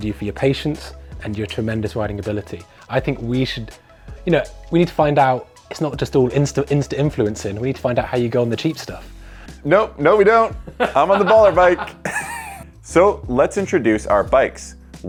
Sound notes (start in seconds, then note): 10.8 laughing